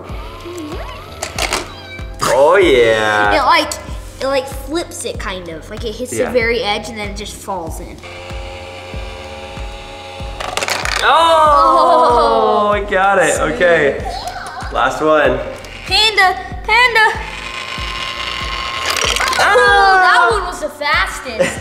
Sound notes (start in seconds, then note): 0.1 gears turning; 1.7 cat meows; 8.0 gears turn; 10.4 coin falls; 17.4 gears turn; 17.4 coin falls